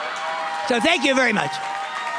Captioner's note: cheering & Applause